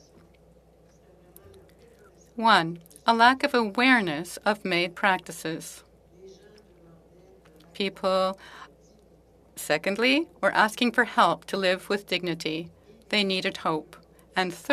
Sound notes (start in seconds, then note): 1.0 speaking Alternate Language; 1.6 speaking French